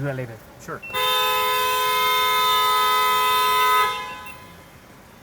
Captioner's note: car beeps